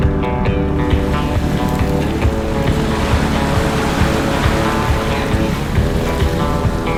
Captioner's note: upbeat music continues; water cascading